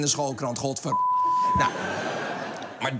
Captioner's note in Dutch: piep